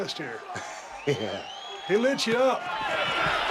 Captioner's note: laugh